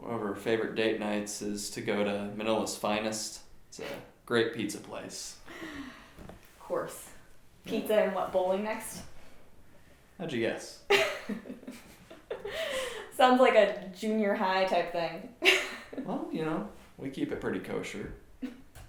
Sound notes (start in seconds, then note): 10.9 Jasmine laughs